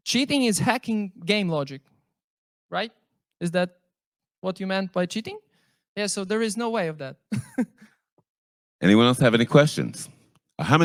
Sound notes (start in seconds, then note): 8.3 laughs